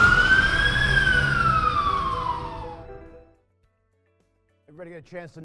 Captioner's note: fire engine siren